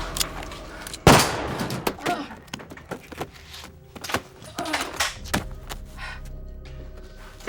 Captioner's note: intense music continues; gun firing; Lucky groaning